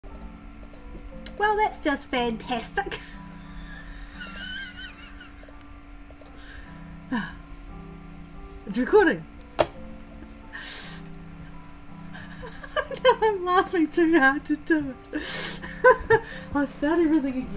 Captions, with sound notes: Well, that's just fantastic [stifled laughter] Ahhh... It's recording! [Laughter] No! Now I'm laughing too hard to do it! [laughter]